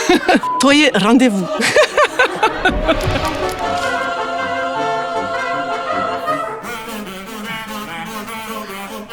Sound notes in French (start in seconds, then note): 1.4 Rire